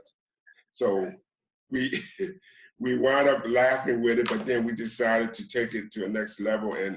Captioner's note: chuckles